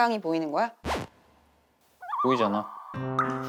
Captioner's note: hesitates